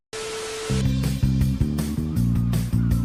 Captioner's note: TV buzzing; upbeat music continues